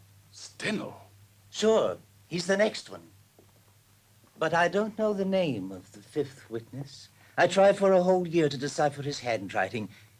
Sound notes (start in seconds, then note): none